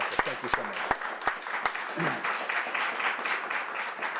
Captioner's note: applause